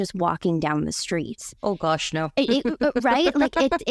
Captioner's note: chuckles